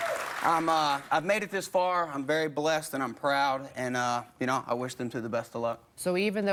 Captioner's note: cheers